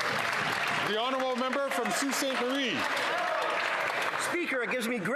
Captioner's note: some Applause